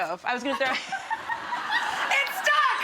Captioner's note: audience laughing